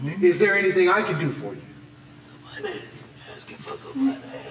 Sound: whispering

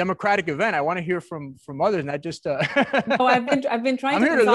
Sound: laughs

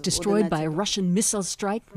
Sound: speaking Foreign Language

